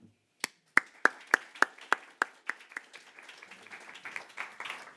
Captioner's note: audience applauding